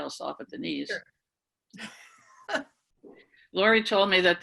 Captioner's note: laughing